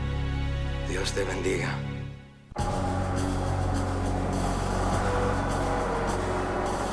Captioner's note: Hector speaking in foreign language